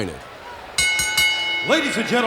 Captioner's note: bell ringing